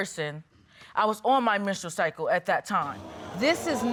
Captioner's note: audience exclaims